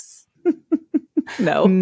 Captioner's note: laughing